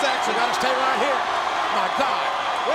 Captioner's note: crowd cheering